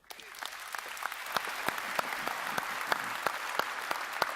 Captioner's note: applause